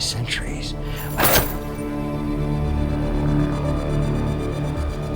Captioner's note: lagger chains smack the table